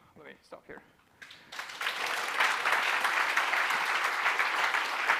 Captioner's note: applause